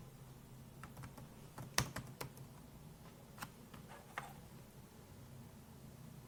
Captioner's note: clacking on keyboard continues